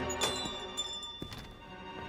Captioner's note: bell jingles